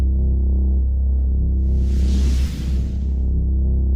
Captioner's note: whooshing smoke